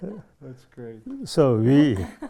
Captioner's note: all laugh